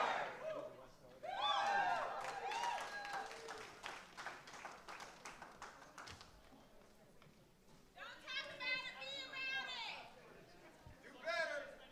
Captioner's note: chanting